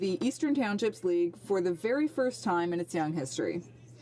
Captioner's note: speaking French